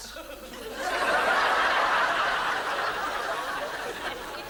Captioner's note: audience laughs